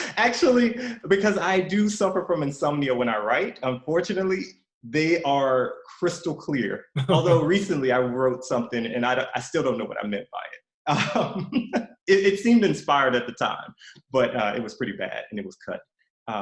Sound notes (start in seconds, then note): 10.9 laughs